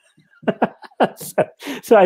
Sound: laughter

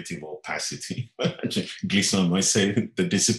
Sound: laughing

